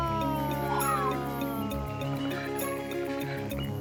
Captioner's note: chirp